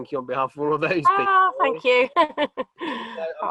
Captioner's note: chuckles